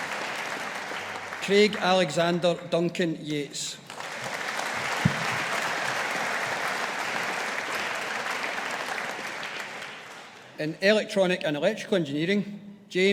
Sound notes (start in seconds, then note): 3.8 audience applauding